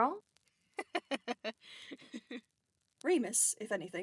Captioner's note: James laughs